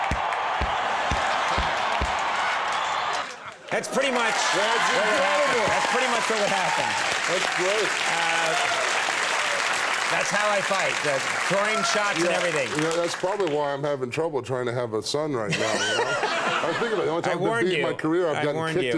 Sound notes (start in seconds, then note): 4.7 audience clapping; 15.5 audience laughs